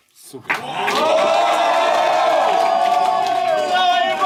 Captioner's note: crowd cheering